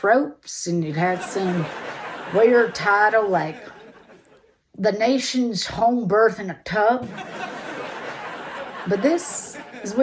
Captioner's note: audience laughter; audience laughter